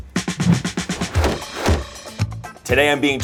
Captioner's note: energetic music; note swooshes twice